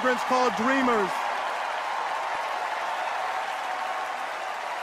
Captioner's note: cheers and applause